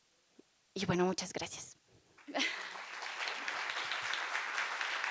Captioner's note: applause